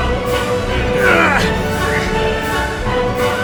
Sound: classic action music; Tom's scream of effort

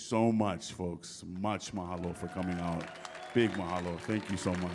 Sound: audience cheering

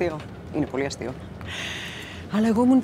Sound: Vanina inhales deeply; Vanina speaking foreign language

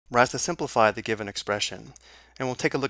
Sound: voiceover

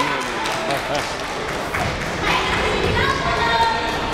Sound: crowd murmuring

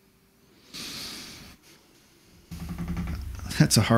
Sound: sighs deep

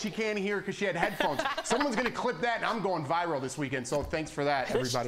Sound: laughter

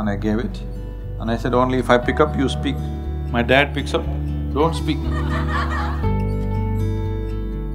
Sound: laughter

